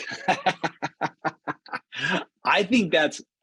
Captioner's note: laughter